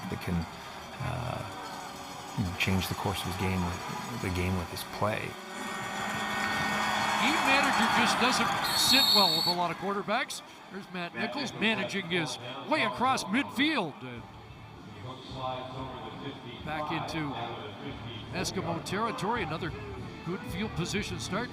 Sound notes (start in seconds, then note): 10.7 crowd din